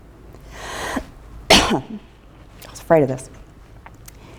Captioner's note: coughs